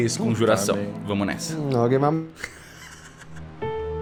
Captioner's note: laughs